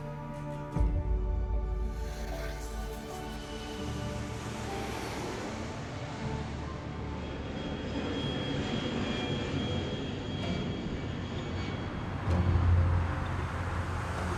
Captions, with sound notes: August 29th, '66 was their last public show. [somber music] [plane whines]